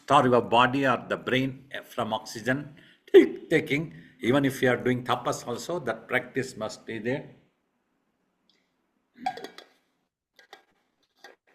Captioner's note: hiccups